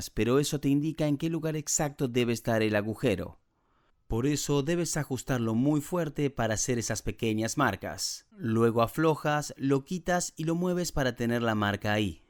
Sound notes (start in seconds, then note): none